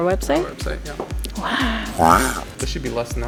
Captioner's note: Turtle wow sound effect